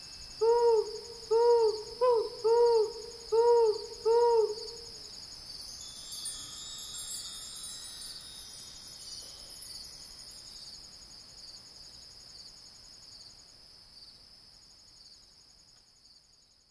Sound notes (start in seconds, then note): 0.4 owl hooting; 5.5 gentle chiming